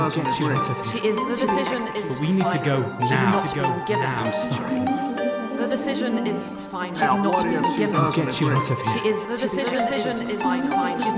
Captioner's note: voices echo